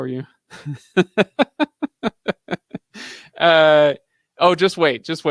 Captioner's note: laughing